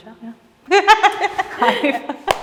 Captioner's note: laughing